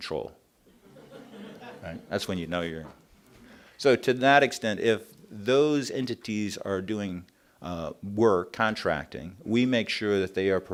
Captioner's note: laughter